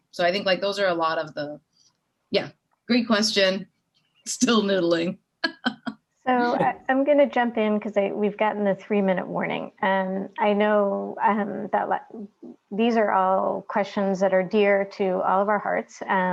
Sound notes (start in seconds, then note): 5.5 laughing